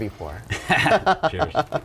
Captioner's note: both chuckling